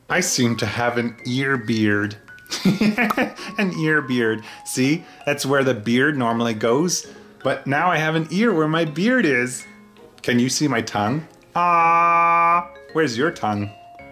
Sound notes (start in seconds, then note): 2.5 laughs; 3.0 popping